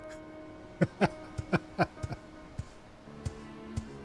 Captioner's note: laughter